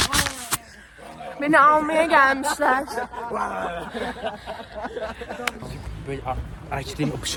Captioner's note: laughs